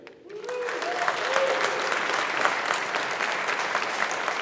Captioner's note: audience applauding